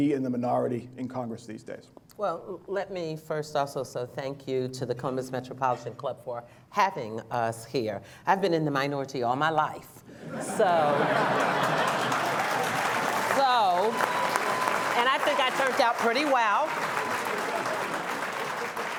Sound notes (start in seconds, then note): 7.3 laughter; 9.4 applause